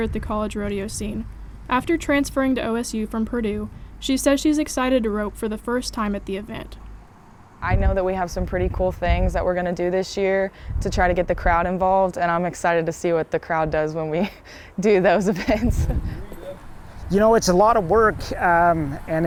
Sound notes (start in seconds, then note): 15.2 laughs